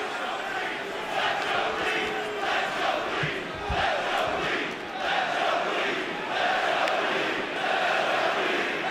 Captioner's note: fans chanting